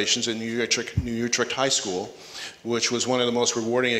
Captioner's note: none